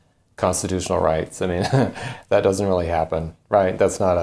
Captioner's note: chuckles